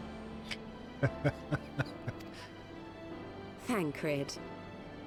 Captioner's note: laughs